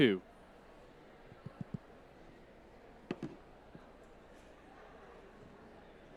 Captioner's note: audience off-mic chattering